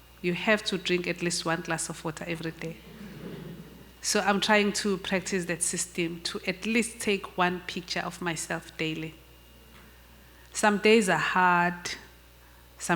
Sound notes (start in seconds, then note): 2.8 audience murmurs